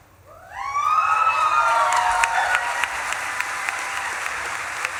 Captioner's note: audience claps and cheers